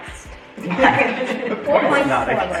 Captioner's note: family laughs